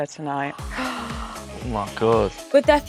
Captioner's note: gasps